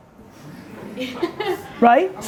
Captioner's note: audience chuckling